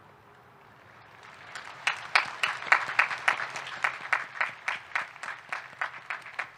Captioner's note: faculty and students clapping